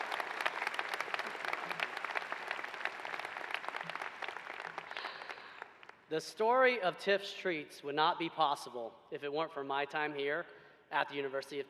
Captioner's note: applause